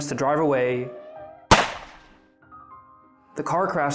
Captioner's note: gunshot